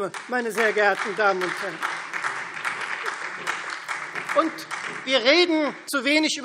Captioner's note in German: Beifall Freie Demokraten, BÜNDNIS 90/DIE GRÜNEN und SPD